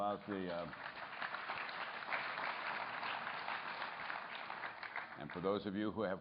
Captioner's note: applause